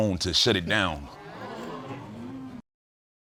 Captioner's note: audience exclaims